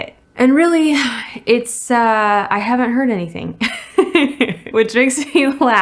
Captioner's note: laughs